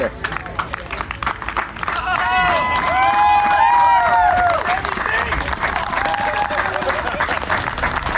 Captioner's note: applause